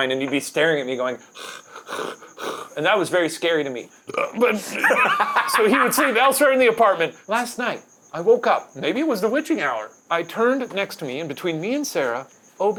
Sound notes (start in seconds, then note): 1.3 panting; 4.0 burps; 4.4 laughing